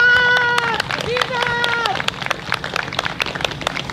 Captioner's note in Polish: Publiczność bije brawo